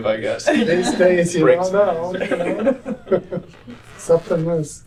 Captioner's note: laughter